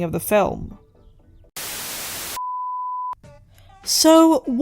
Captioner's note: static